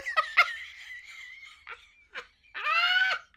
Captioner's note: laughs